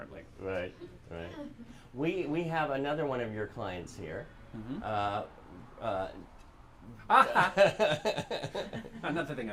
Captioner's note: laughter